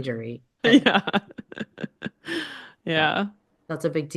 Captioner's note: both laughing